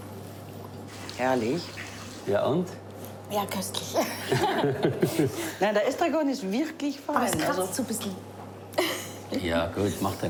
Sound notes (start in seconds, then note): 4.1 both laughing; 5.5 speaking foreign language